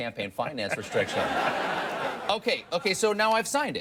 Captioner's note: audience laughs